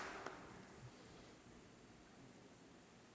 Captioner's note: applause